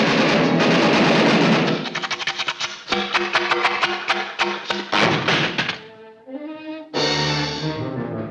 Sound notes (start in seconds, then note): 1.4 sputtering